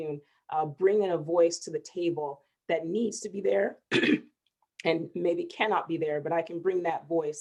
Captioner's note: clears throat